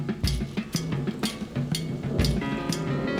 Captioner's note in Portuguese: trovoada